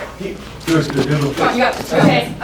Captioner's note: talking